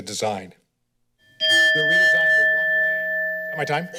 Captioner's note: timer rings